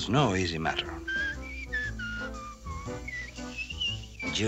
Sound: Deux Deux whistling

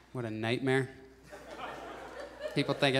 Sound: audience laughs

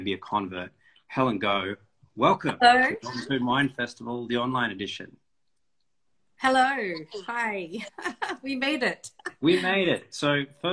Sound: laughs

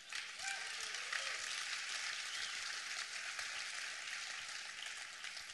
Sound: applause

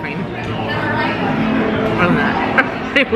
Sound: people chattering; laughing

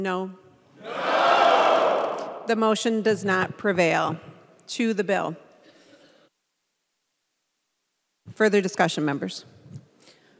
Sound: chorus of ayes

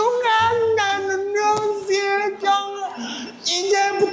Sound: Mocking SUJEONG from the past

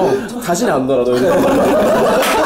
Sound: laughing; bang

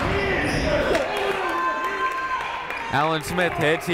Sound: shouting

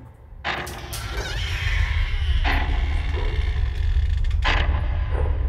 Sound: door creaking ominously

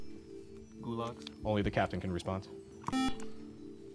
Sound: buzzer

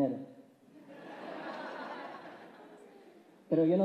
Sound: laughs

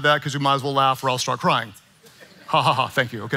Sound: congregants chuckling

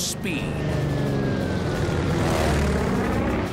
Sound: plane roaring

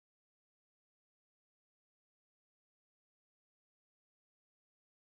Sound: none

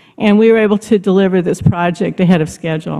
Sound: none

